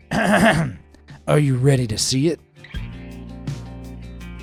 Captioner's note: narrator throat clearing; gentle music